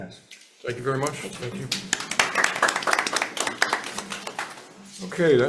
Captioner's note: hands clapping